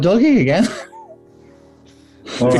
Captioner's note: sniggering